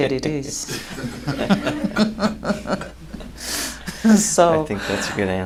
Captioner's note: laughter